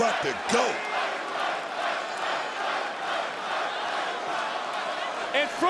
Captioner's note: crowd chants "Fight"